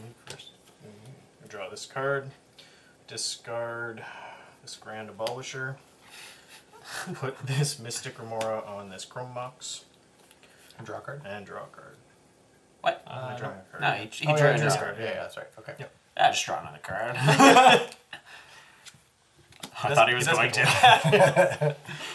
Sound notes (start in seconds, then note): 19.8 laughs